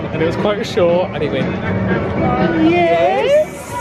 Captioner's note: laughs